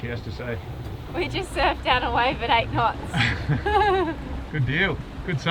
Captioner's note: laughs